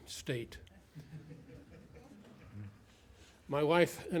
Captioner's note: laughter